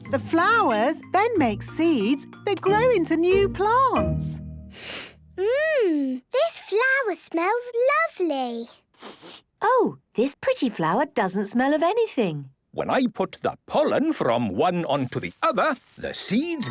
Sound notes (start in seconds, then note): 4.8 sniffs; 8.9 sniffs